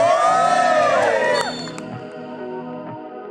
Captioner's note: cheers